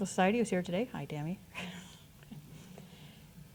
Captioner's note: chuckles